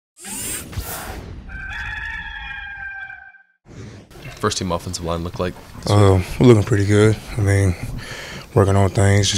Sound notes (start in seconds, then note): 1.4 rooster crowing